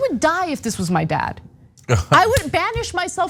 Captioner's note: laugh